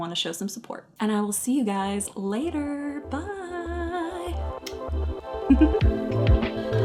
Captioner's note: kiss; upbeat electronic music